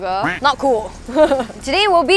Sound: laughs

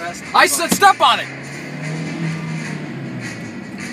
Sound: car accelerates quickly

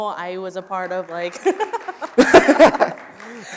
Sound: audience applauding; laughing

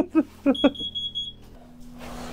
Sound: laughing

